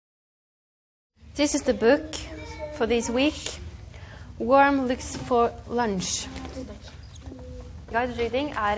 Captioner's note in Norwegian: Lærer snakker engelsk til levene